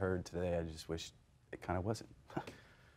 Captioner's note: chuckling